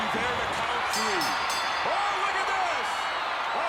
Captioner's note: ring bell clanging